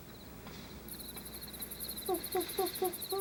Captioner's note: owl hoots; crickets chirp; owl hoots